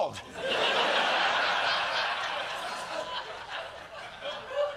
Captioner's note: laughter